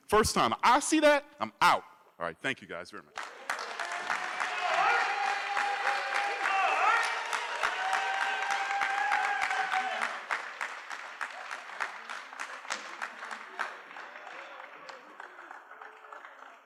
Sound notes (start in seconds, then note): 3.5 cheering